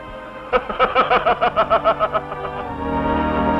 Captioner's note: laughing